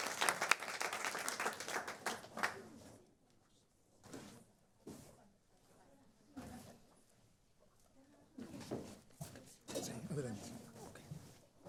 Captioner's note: applause